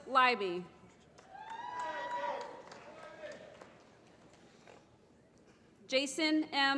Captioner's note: applause